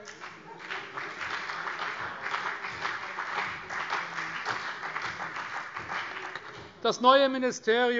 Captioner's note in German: Beifall CDU